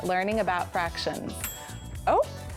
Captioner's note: oven dings